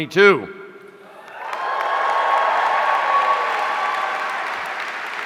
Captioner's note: audience cheering